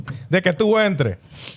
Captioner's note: laughing